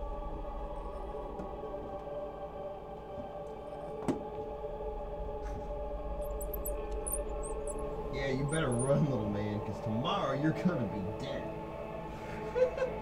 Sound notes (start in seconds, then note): 6.2 rats squeaking; 12.3 laughing